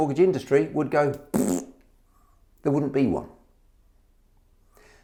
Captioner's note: blowing raspberry